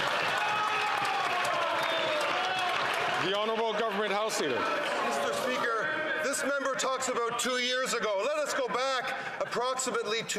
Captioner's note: some Applause